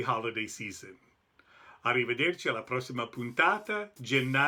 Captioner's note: speaking Italian